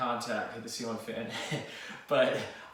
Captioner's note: laughing